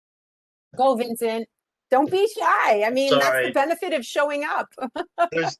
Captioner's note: laughs